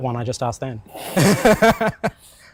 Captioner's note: both laugh